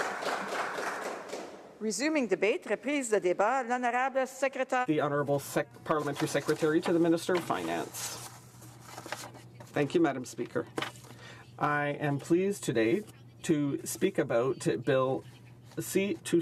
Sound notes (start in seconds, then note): 2.7 applause